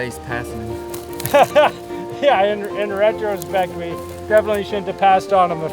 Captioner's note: laughs